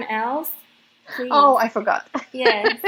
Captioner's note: laughs